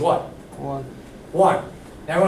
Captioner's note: voiceover